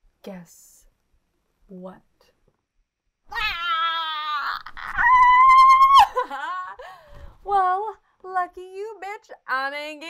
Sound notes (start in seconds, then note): 3.3 squealing and giggling